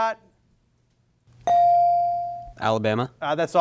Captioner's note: bell sounding